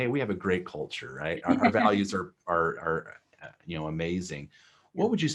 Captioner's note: laughter